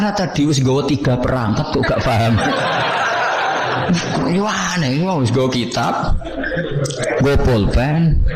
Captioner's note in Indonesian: tertawa